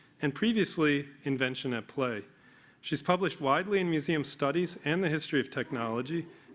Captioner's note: none